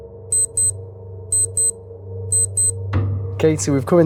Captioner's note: beeping